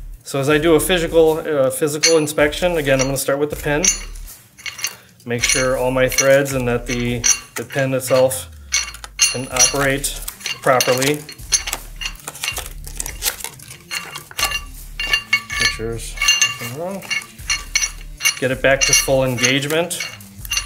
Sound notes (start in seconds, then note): 11.6 metal rattling